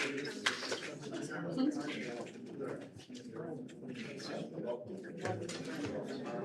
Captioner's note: applause